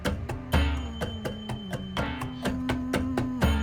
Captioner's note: humming